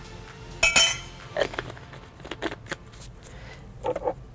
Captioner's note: spoon clinking